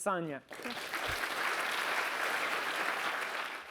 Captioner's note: applause